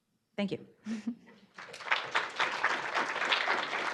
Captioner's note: audience clapping